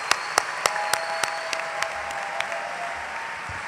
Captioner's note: applause